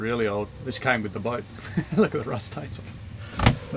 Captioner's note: laughs